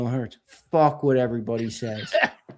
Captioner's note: laughing